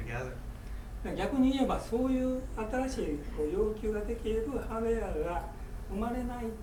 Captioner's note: speaking in foreign language